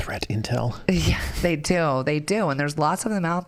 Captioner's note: chuckling